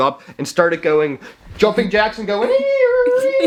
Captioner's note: wailing